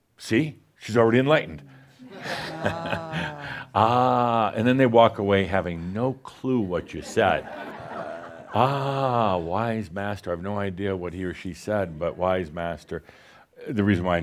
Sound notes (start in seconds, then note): 2.2 some chuckles; 6.6 laughter